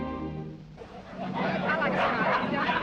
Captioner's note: people chattering; dogs barking